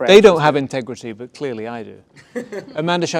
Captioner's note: laughter